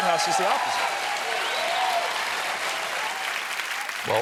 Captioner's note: cheers and applause